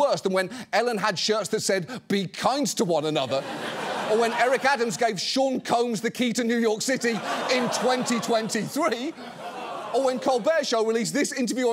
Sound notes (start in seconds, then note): 3.3 audience laughs; 7.0 audience groans, laughs